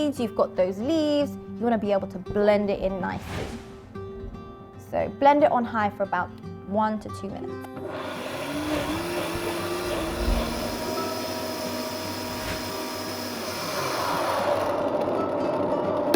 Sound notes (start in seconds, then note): 3.5 gentle music; 7.8 blender wiring